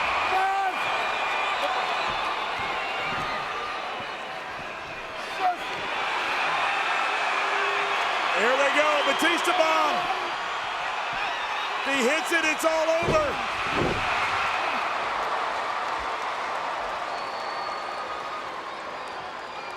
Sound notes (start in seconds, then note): 6.0 audience cheering; 14.2 audience cheering